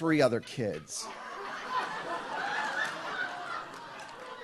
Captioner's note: audience laughs